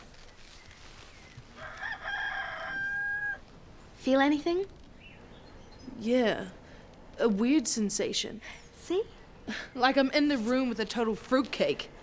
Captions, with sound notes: (rooster crows) Feel anything? - Yeah, a weird sensation. - See? - Like I'm in the room with a total fruitcake.